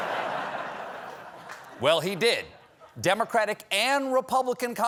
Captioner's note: laughter